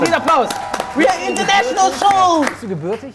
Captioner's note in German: Jubel, Applaus